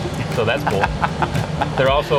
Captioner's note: laughing